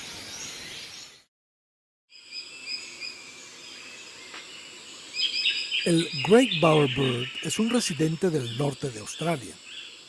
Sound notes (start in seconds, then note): 2.2 birds chirps